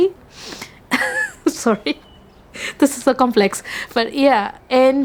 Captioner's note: laughs